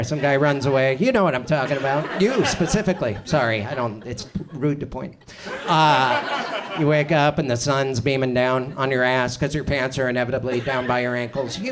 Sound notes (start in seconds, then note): 5.3 audience chuckles